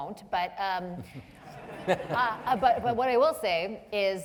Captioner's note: and audience members laughing